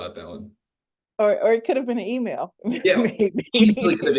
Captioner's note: laughs